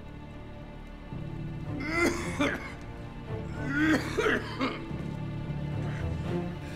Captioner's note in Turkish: Müzik - Gerilim; Öksürme sesi